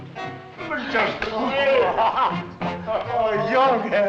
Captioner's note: chattering